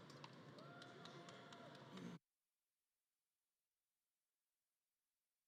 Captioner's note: audience claps and cheers